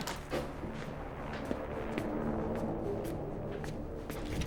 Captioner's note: none